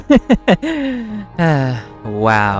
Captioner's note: laughing the pain away; sigh